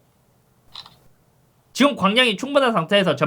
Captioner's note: click